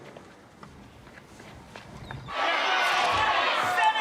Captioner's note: cheering